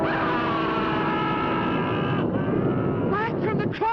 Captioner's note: witch screaming